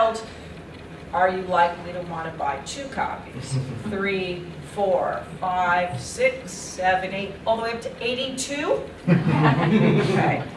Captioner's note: laughter